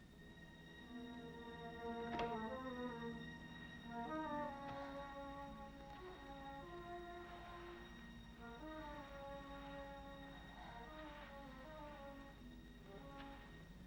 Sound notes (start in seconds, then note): 0.2 tense music; 2.2 door opens; 4.0 tense music